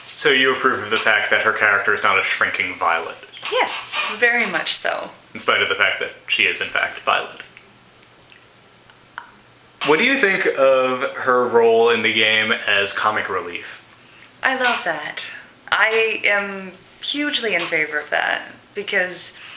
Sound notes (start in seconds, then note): 9.2 stunned, slightly horrified silence